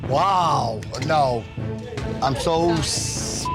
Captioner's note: beep